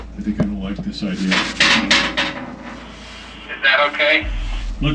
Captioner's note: metal clanking